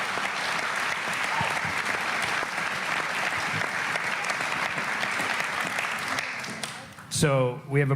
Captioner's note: applause